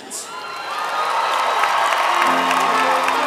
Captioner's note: applause